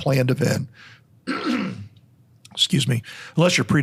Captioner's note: clears throat